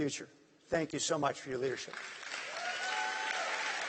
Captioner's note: applause